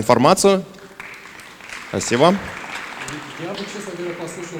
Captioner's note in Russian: аплодисменты